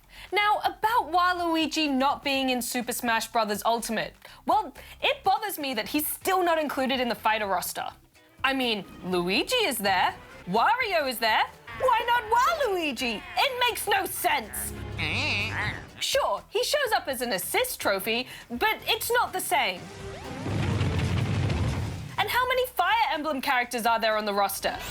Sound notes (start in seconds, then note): 13.9 both grunt